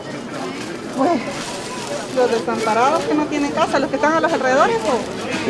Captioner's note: in Spanish